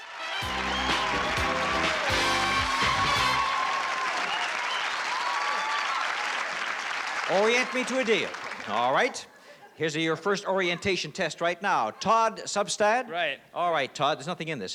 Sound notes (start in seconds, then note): 2.3 applause